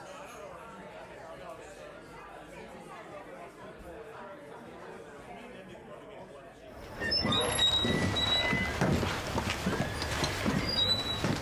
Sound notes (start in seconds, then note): 1.3 chatter